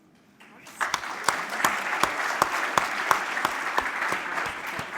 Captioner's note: applause